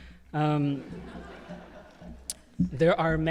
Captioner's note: audience laughing